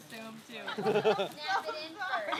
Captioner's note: laughing